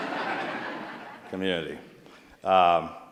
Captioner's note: laughter